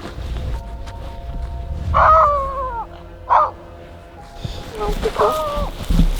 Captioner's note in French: cris d'animal